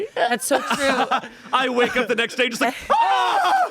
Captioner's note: screams